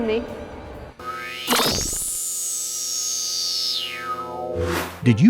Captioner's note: sound Effects